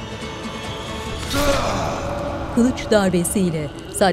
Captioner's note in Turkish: Kılıç sesi